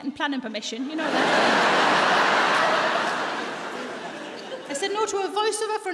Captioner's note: audience laughs